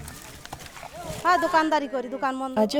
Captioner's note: foreign language